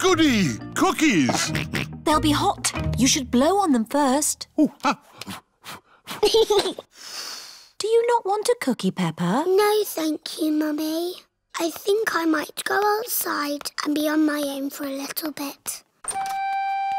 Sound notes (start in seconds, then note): 5.8 blows; 6.6 giggles and blows